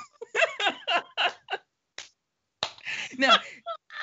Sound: laughing

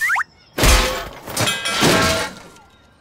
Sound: metal clanks

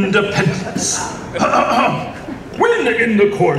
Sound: clears throat sounds

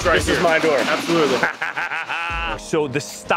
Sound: laughing

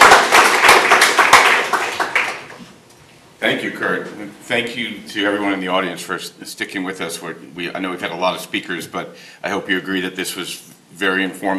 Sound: applause

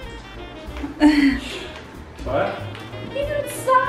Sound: laughs

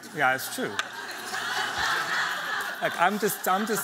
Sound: laughter

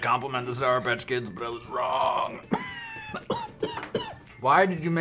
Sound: coughs

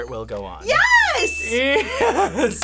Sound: audio dings

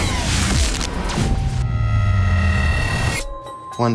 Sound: electricity crackles; loud, droning whir

